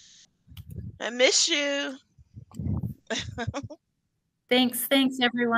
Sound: laughing

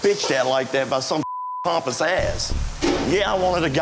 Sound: beeping

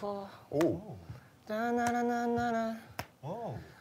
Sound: humming

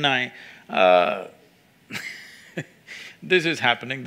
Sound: laughs

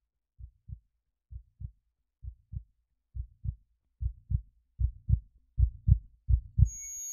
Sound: heart beating; heartbeat continues

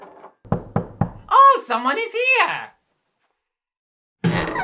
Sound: knock on door

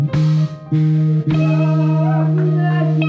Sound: audience cheers

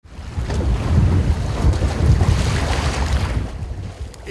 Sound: waterlapping sounds

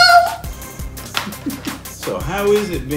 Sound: dad laughing

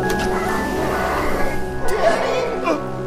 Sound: muffled screams and grunts

